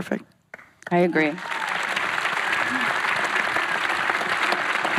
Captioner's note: applause